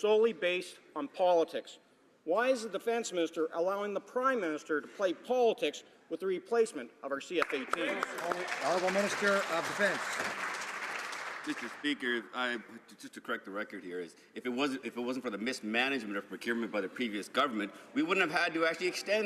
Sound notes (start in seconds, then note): 11.7 some Applause